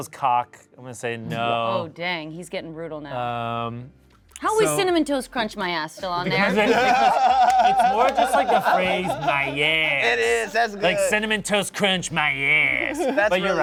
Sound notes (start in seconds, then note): 6.3 cast laughs